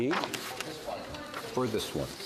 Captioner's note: speaking French